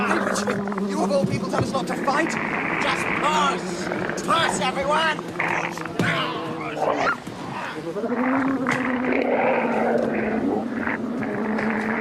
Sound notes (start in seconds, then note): 3.5 sea serpent snarling; 6.0 grunting; 8.6 sea serpent snarling